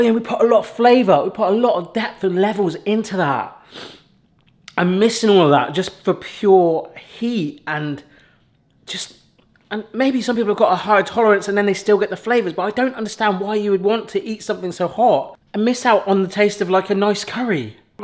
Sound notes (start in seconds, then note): 3.7 sniffs